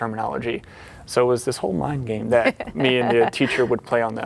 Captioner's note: laughing